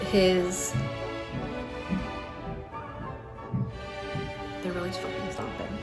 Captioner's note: stomping sounds